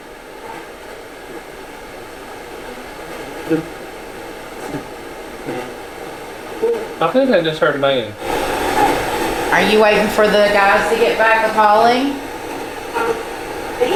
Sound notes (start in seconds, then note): 0.2 static sound; 8.3 static sound